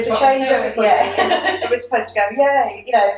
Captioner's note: laughter